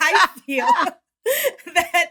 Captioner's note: laughter